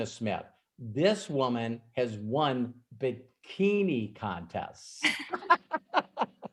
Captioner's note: laughs